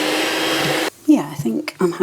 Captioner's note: cake mixer whirring